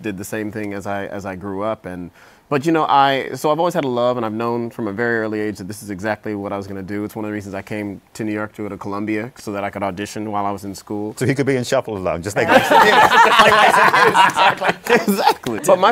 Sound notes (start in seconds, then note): 12.4 laughter